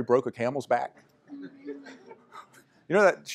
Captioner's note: laughter